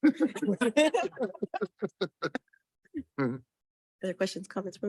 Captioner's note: members laughing